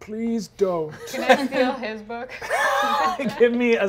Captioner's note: players laughing